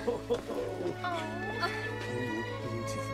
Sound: male chuckles; female gasps

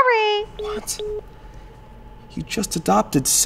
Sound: phone clicks

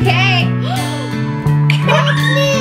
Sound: gasps

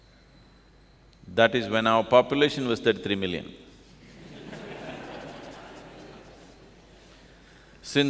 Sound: laughter

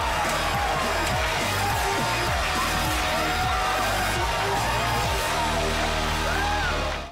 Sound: cheering, music playing

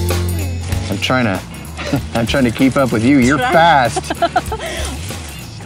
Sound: laughs

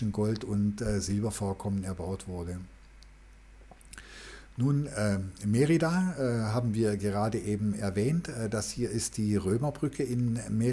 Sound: german

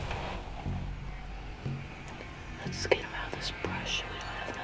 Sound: whispering

